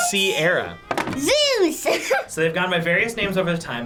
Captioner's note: laughs